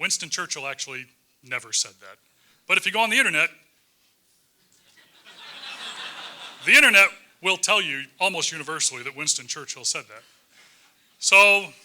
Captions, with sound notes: Winston Churchill actually never said that, but if you go on the Internet, >> [LAUGH] >> the Internet will tell you almost universally that Winston Churchill said that.